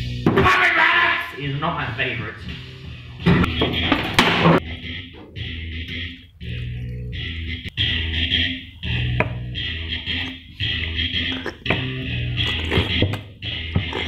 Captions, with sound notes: POMEGRANATES! is not my favourite (WHIP) (Disgusting slurping noises)